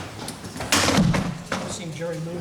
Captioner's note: chairs banging